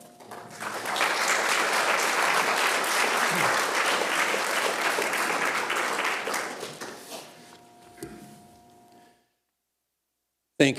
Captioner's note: applause